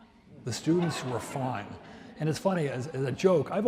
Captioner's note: audience laughs